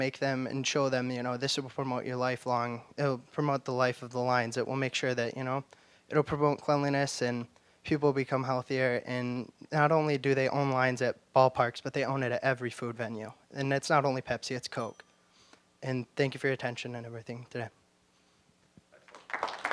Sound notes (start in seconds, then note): 14.8 bell dinging; 19.0 applause